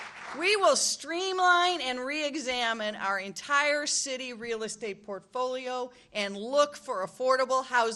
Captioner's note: applause